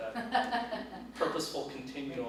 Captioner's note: laughs